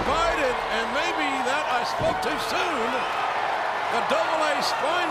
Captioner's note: crowd cheering